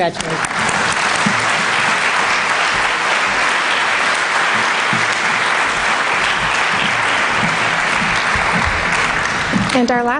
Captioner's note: applause